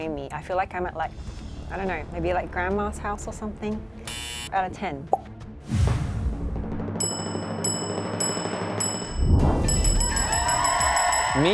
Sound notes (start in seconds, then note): 4.1 beep; 6.0 drum rolling; 7.0 bell dings; 9.8 bell dinging; 10.0 audience cheering